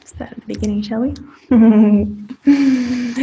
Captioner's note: chuckling